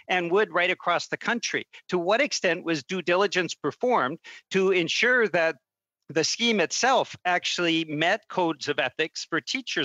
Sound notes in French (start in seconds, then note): 3.9 voix de l'interprète